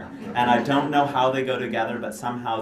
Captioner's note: laughter